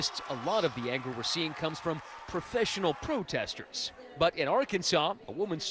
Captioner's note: cheers and applause